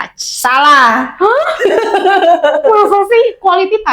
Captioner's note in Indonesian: tertawa